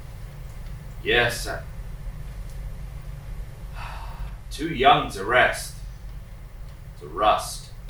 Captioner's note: sighs